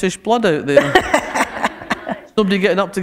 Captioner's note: laughter